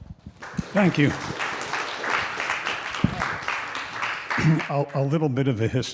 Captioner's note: audience applauding